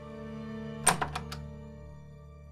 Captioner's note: door opens